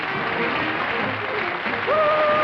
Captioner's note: applause